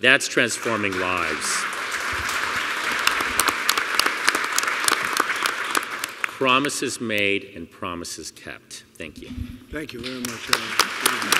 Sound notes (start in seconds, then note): 2.5 applause